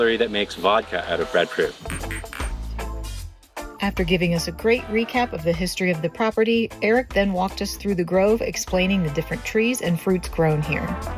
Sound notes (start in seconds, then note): 1.8 glasses clinking; 2.4 chill reggae music continues